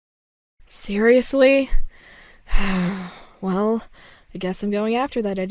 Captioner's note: sigh